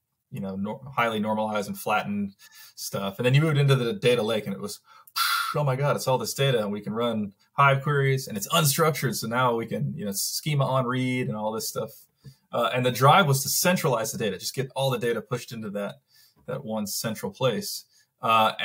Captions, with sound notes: you know, highly normalized and flattened stuff. And then you moved into the data lake and it was, (blowing) oh my God, it's all this data and we can run Hive queries and it's unstructured so now we can, you know, schema on read and all this stuff. And the drive was to centralize the data, just get all the data pushed into that one central place.